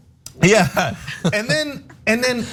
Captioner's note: laugh